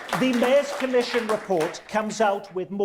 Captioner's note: audience applause